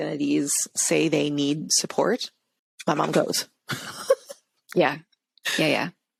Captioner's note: laughs